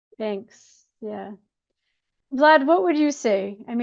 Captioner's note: none